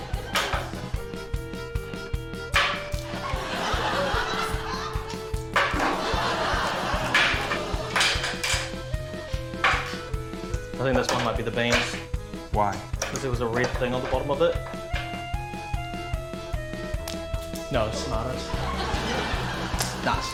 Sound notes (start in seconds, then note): 3.1 laughter; 7.0 can opener clatters; 18.0 laughter